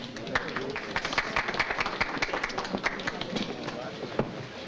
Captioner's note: patrons clapping